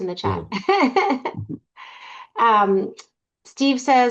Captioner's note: laughing